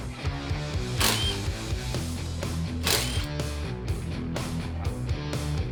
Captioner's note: drill whirs; rock music